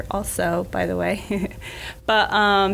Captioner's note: laughs